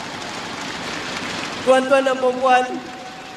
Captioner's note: crowd cheering